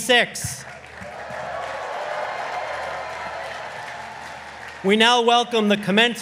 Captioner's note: audience applauding